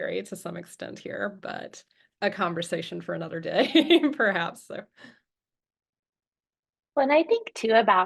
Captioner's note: chuckles